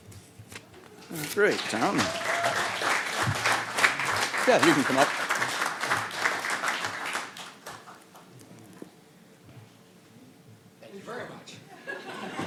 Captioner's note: applause